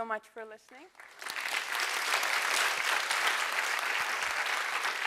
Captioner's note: applause